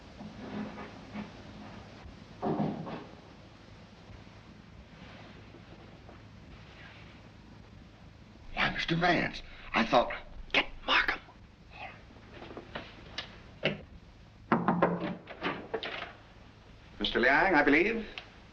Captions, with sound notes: [whispering] Why, Mr. Vance, I thought-- - Get Markham. - Alright. [knock at door] Mr. Liang, I believe?